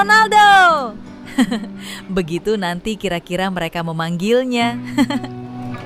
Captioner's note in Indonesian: tertawa; tertawa